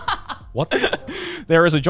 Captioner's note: laughing